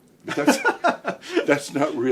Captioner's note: laughing